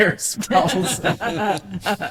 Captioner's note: laughter